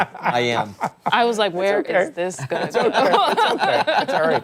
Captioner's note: laughter